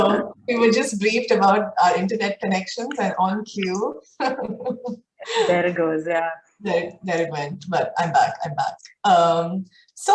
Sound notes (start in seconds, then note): 0.0 both laughing; 4.2 laughs